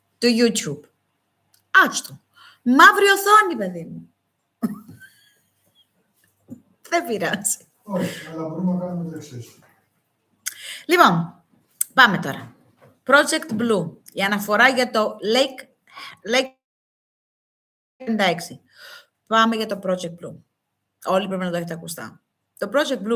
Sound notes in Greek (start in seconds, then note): 4.6 γέλια